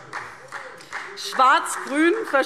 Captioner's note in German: Beifall SPD